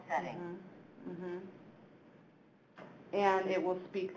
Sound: electronic voice speaks

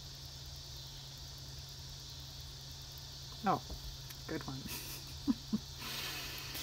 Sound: laughs

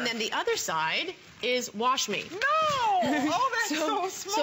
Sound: laughter

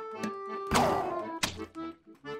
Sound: popping

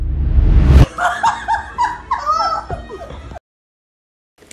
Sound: laughs

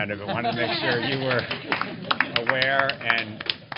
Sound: applause

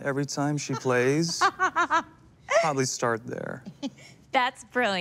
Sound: laughs

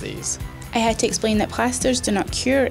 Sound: voiceover

